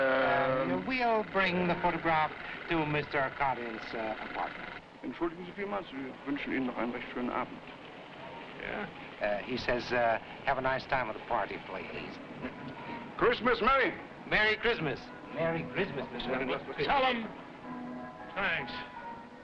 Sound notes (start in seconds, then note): 5.0 officer speaking foreign language